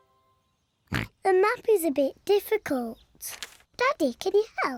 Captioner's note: oinks and giggles; oinks